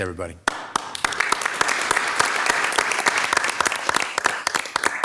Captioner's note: everybody clapping